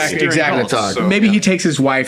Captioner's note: laughing